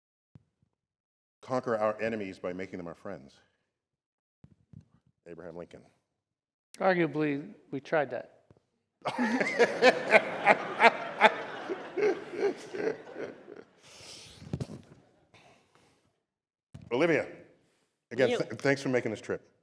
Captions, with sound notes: conquer our enemies by making them our friends? Abraham Lincoln. Arguably, we tried that. [LAUGHTER] Olivia, again, thanks for making this trip.